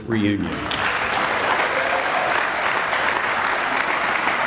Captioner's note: audience applauding